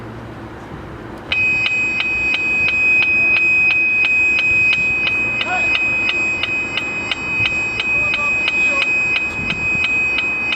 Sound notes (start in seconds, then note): 2.1 ahh there's that lovely Ear Piercing sound